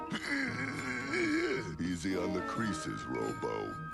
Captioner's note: groans